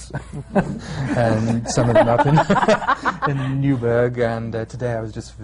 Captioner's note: laughter